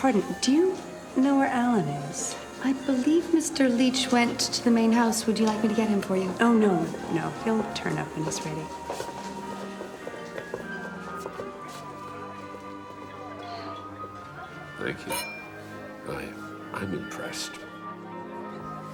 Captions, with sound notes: Pardon, do you know where Alan is? - I believe Mr. Leach went to the main house, would you like me to get him for you? - Oh no, no he'll turn up when he's ready. (soft piano music) - Thank you. (clink) I'm impressed.